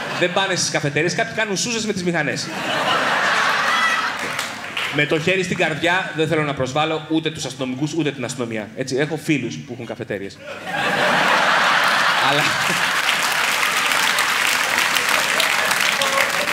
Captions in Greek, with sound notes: Δεν πάνε στις καφετέριες. Κάποιοι κάνουν σούζες με τις μηχανές. Με το χέρι στην καρδιά, δεν θέλω να προσβάλω ούτε τους αστυνομικούς, ούτε την αστυνομία, έτσι; Έχω φίλους που έχουν καφετέριες (ηχηρά γέλια) Αλλά... (χειροκρότημα)